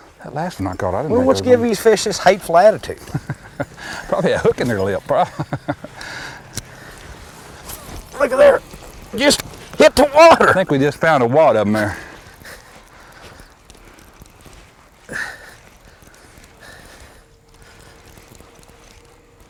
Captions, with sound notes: that last one I caught.. what's give these fish such a hateful attitude [Laughter] probably a hook in their lip [laughter] Lookie there! just hit the water. I think we just found a wad of them there [heavy breathing and reeling]